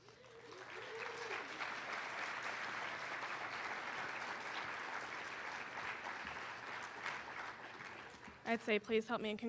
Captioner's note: applause